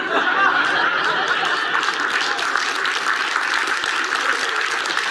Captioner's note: audience laughs and applauds